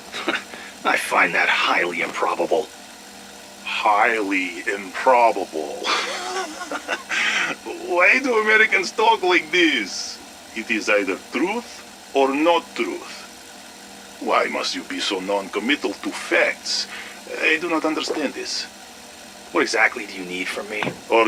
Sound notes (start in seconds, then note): 5.8 laughs